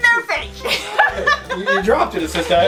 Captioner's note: laughs